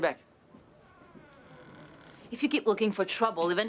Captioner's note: door creaks